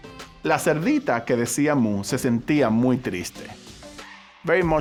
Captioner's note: speaking Spanish